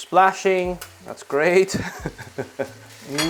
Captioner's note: laughs